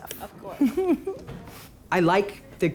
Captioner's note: laughter